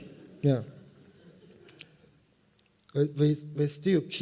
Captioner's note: laughter